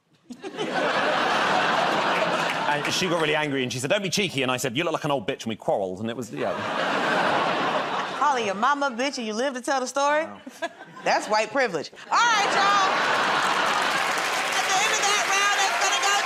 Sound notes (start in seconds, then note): 0.2 laughter; 12.1 cheers and applause